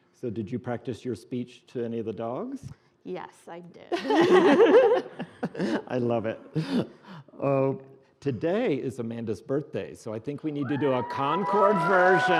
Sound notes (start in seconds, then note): 3.9 laughing